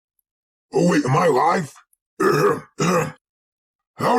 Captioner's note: clears throat